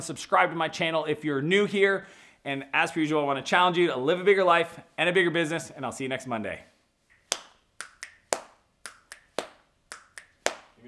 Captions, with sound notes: Subscribe to my channel if you're new here and as per usual, I wanna challenge you live a bigger life and a bigger business and I'll see you next Monday. (clapping and snapping)